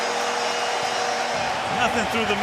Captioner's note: crowd cheering